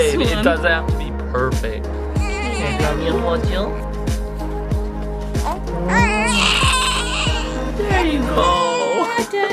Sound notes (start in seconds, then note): 2.1 baby Crying